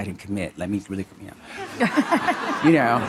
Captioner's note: Monica and audience laughing